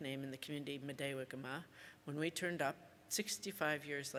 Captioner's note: speaks Ojibwe